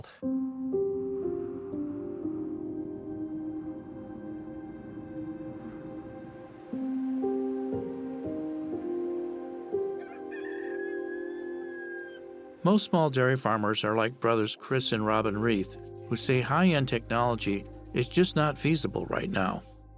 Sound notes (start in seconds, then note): 0.2 upbeat music; 9.9 cock crows